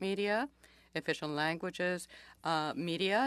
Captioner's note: speaking French